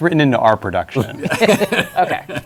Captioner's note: laughter